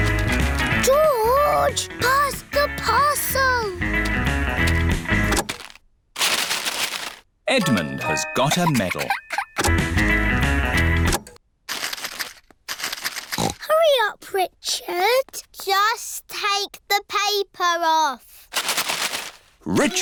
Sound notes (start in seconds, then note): 5.3 music stops; 11.2 music stops; 13.2 snorts